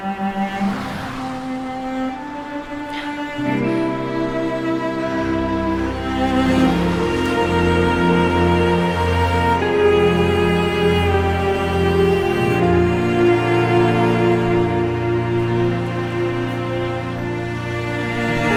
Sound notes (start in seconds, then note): 3.3 inhales deeply; 6.0 emotional instrumental music playing